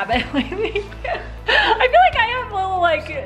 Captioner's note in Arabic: يضحك